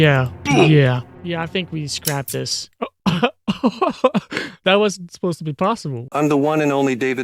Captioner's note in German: lacht